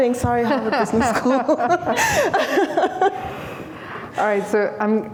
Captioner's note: laughter